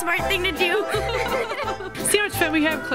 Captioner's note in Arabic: يضحك